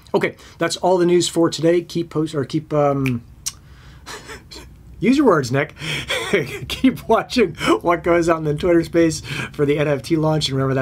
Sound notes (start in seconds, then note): 3.0 fingers snapping; 4.0 laughs; 5.9 laughs